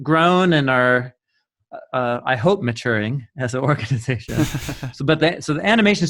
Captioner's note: laughing